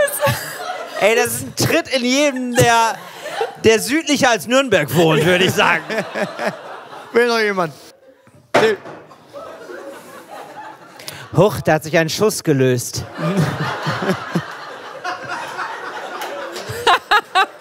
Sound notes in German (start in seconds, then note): 8.6 Glas fällt